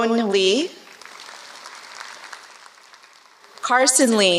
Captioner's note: applause